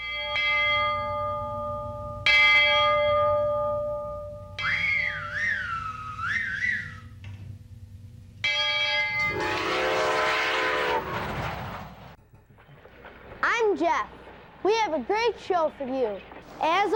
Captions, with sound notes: (bell ringing) (whistling) (train whistle) - I'm Jeff, we have a great show for you.